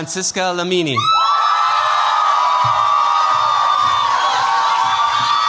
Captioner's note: cheers, applause